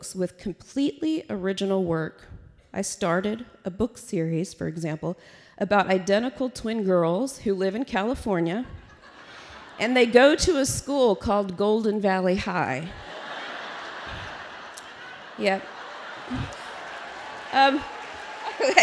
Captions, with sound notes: notebooks with completely original work. I started a book series, for example, about identical twin girls who live in California and go to a school called…Golden Valley High. (Laughter). Yeah.